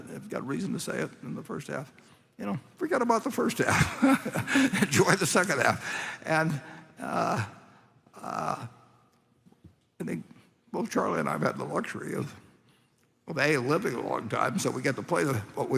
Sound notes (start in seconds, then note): 3.7 laughs